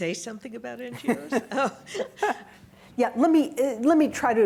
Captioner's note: laughs